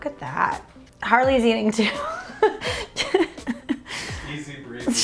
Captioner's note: laughs